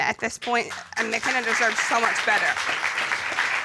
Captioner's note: applause